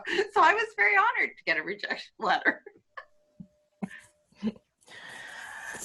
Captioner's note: laughs